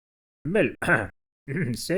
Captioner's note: coughs